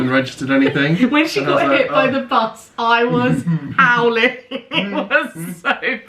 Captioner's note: laughing